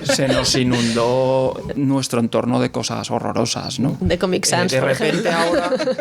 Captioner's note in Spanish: risas; risas